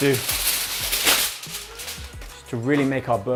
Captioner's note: foil rustling